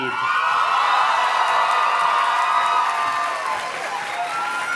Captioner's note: audience cheers and claps